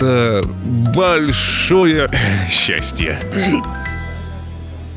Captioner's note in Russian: икает